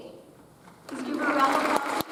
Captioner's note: audience applauds